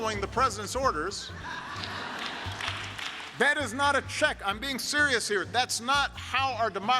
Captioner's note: laughter, applause